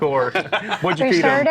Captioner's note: laughing